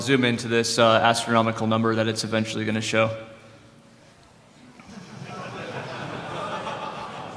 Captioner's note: laughter